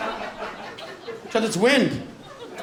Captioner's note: laughter